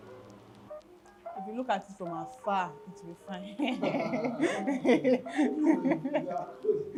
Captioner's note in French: rires